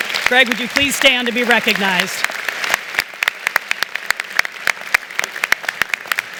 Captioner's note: applause